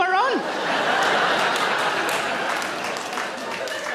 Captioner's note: audience laughs